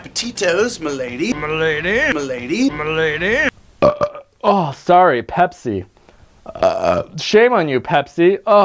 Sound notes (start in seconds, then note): 3.8 Crazy Nate burps; 6.5 Crazy Nate burps